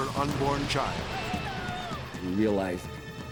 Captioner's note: people screaming